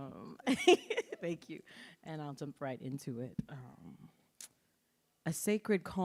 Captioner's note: laughs